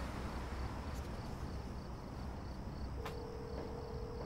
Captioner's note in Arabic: رنين الهاتف